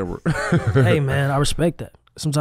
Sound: chuckles

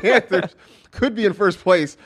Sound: laughs

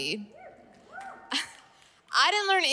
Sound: laughter

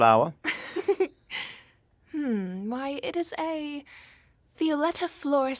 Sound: laugh

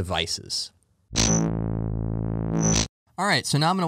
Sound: buzzing

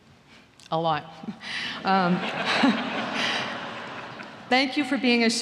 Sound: laughter

